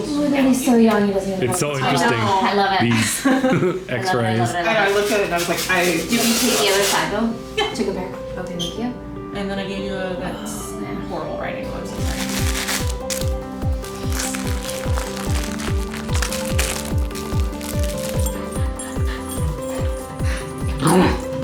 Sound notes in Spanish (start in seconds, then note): 2.2 Risas; 12.0 Juguete arrugado; 20.6 El cachorro gruñe